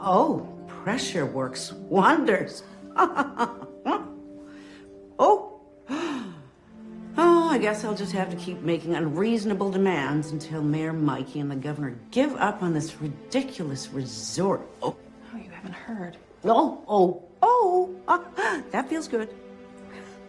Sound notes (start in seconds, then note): 2.9 chuckles